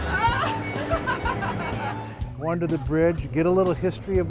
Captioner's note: laughing